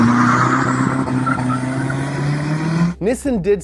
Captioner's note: engine revving